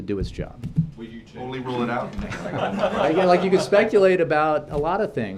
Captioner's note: laughter